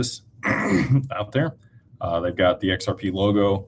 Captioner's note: clears throat